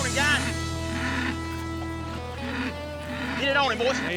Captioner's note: bull grunting